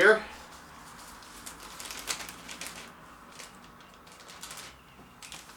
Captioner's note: plastic bag noise